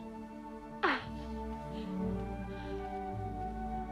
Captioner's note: Hundra laughs